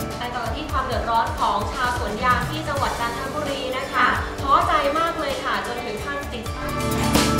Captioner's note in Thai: เสียงผู้ประกาศข่าว